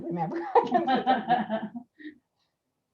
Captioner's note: laughing